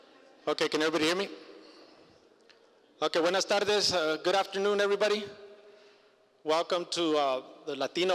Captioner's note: foreign language